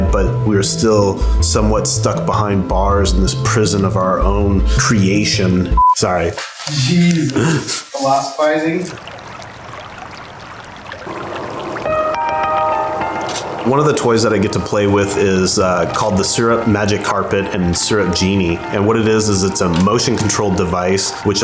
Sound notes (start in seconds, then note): 5.8 beeping; 8.4 murmuring; 8.4 water flowing